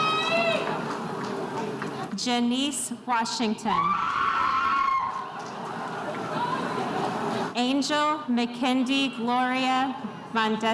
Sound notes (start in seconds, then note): 3.8 spectators cheering